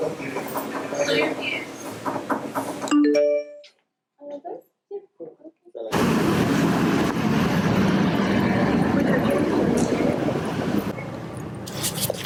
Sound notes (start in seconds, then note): 2.9 notification sound